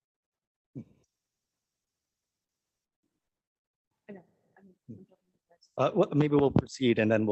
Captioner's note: A pause